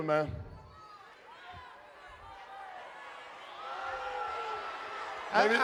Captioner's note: crowd vocalizing